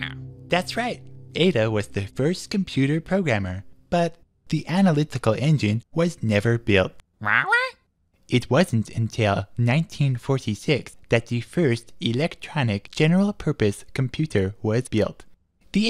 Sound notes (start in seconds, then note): 7.1 squawking incredulously